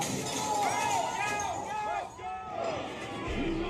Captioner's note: crowd ranting